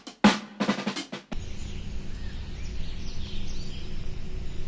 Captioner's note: birds chirping